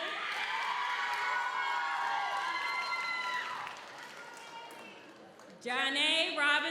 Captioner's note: audience cheers; audience applauds